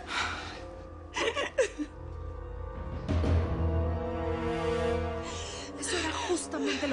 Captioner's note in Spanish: Sollozos